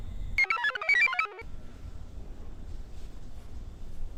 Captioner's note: computer chirps